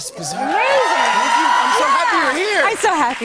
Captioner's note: cheers and applause